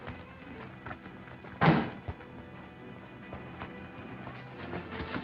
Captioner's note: car door thuds